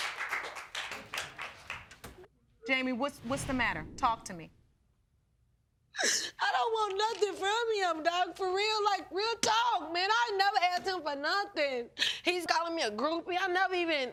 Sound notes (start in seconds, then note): 5.9 sobbing